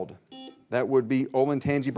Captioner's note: buzzer beeps